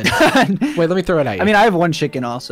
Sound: laughs

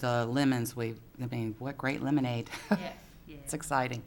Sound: giggles

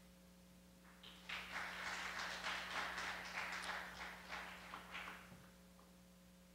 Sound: <i>Applause</i>

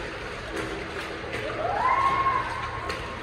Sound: whooping

